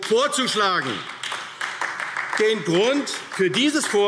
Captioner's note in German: Beifall AfD